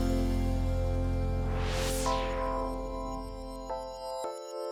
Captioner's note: screen whooshing